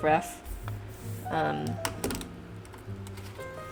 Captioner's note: pen clatters